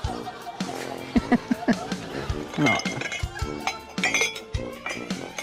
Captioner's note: laughs